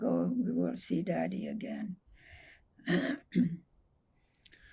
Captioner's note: clears throat